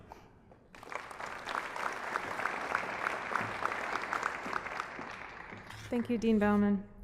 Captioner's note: applause